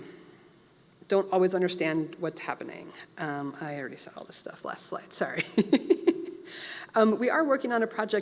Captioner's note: laugh